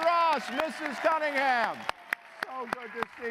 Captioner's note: applause